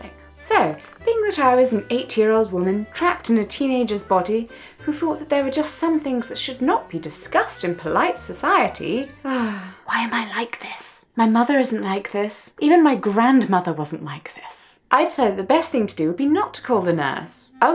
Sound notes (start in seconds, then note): 9.2 sighs in mental agony; 9.9 whispers